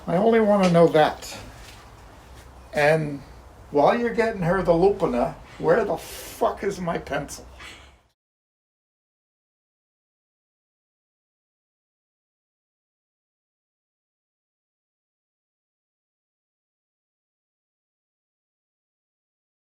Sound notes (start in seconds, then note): 7.8 chuckles